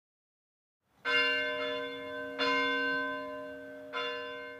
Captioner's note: bell ringing